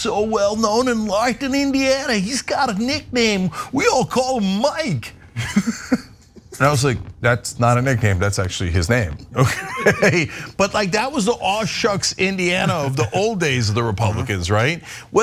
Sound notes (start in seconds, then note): 4.7 laugh